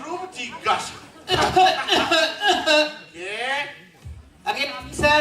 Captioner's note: coughing from background